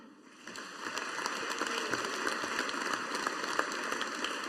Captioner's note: audience applauding